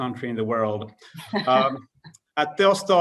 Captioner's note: laughs